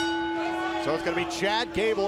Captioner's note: bell